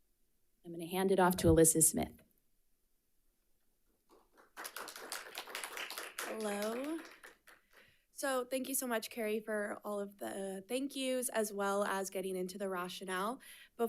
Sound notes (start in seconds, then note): 4.1 audience applauding